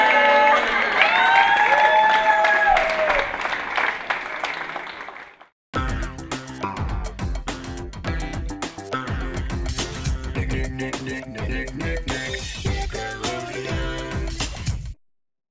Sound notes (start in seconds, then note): 0.0 cheering